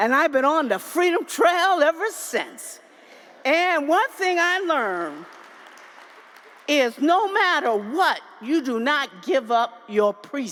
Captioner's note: applause